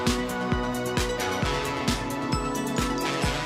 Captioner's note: crowd cheering